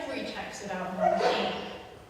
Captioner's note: sneezes